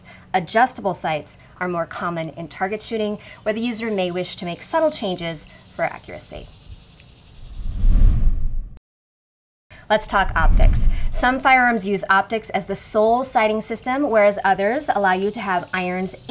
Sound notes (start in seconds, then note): 7.6 graphics sliding